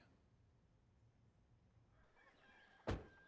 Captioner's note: rooster crows